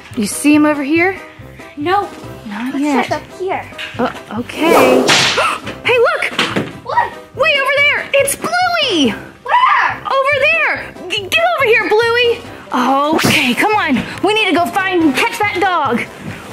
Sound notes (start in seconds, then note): 5.3 gasps